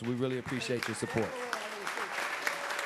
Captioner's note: applause